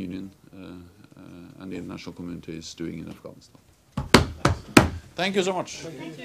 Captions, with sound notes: and the international communities doing in Afghanistan. (drums hands on table) Thank you so much.